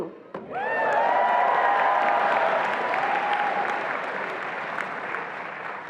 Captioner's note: attendees applauding and cheering